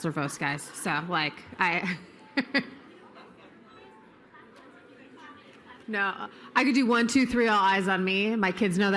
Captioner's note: laughter